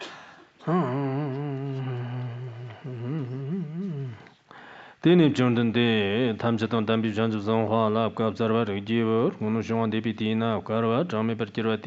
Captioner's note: giving oral transmission in Tibetan